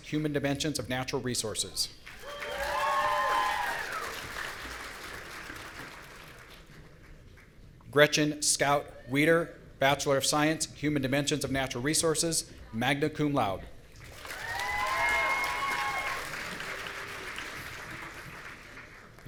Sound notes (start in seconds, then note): 2.2 audience cheering; 14.1 audience cheering